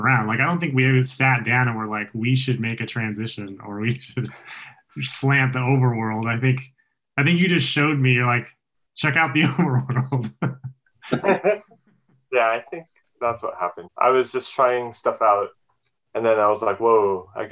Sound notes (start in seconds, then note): 9.1 laughs